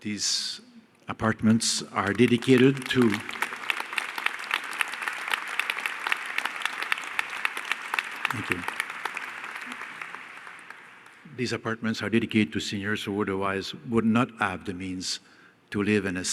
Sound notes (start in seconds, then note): 4.1 applause